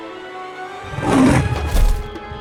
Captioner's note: tense music; roar